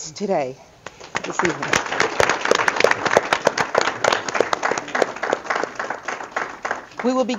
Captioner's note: audience clapping